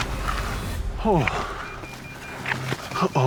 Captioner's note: beeping